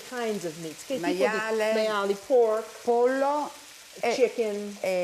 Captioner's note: speaking Italian